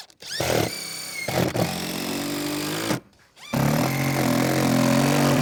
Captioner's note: drill whirring; drill grinding